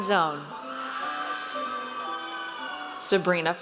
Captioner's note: audience cheers